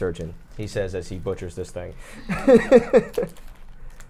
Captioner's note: laughs